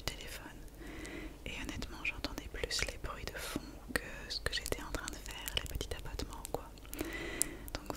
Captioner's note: what little taps